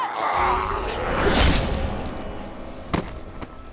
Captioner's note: squelch